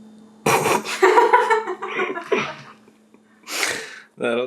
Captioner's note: laughs